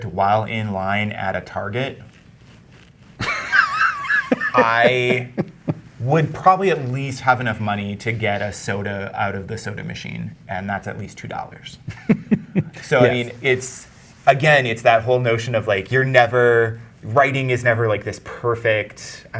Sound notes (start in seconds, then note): 3.2 guy laughing; 11.9 guy chuckling